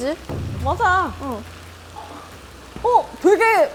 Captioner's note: gurgle gurgle again